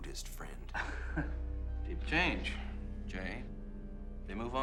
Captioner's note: chuckles